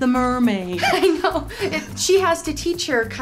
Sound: laughs

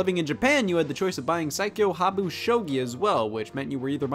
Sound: reads title in Japanese

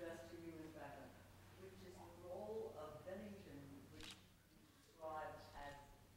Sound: audience member speaking off-mic

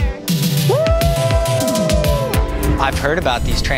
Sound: group whoops

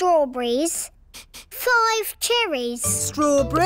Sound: sniffs

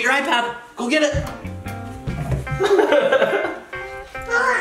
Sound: laughing

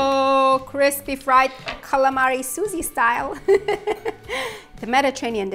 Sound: laughs

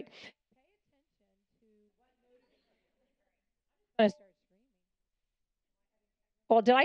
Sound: mic muted

